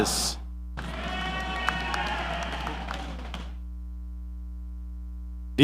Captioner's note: audience applauding